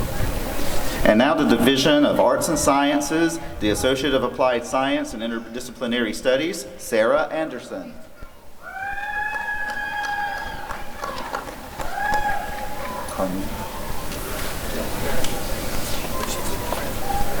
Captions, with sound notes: And now the Division of Arts and Sciences, the Associate of Applied Science and Interdisciplinary Studies— Sarah Anderson [applause and cheering]